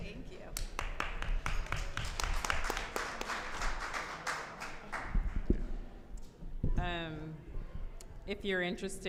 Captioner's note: applause